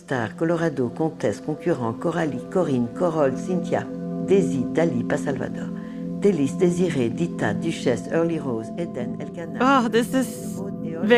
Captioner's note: speaking French